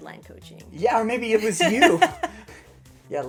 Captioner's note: laughter